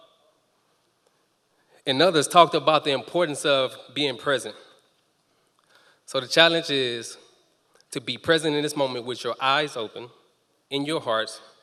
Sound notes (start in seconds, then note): none